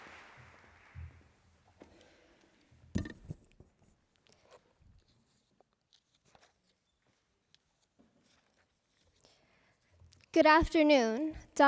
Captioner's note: appuse